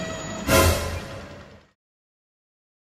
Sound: jump scare

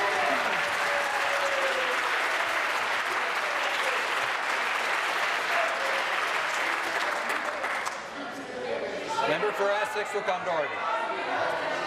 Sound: applause

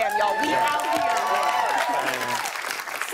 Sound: cheers and applause

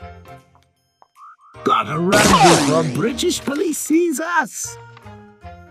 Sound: The Joker Voice

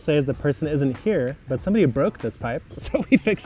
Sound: laughs

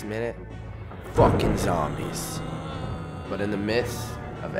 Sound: zombies moaning

